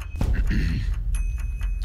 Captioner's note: clears throat